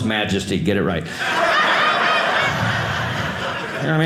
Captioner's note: audience laughing